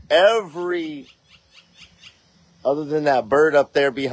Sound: bird chirping

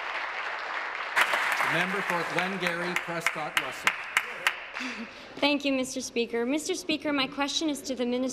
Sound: applause

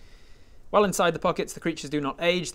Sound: none

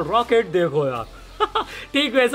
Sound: laughing

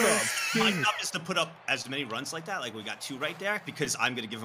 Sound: laughs

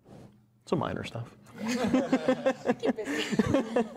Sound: laughter

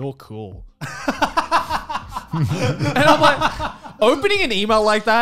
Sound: laughing

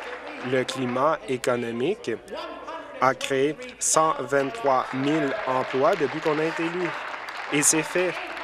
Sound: applause

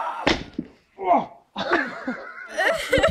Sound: dull thud; man groans in pain; giggling; laughter off screen

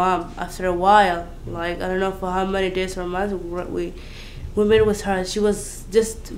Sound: running

